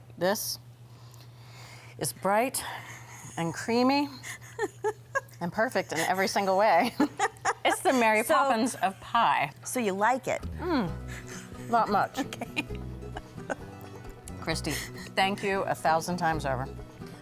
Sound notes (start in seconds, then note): 3.1 laughing; 11.0 laughing